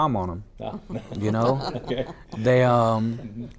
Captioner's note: group laughing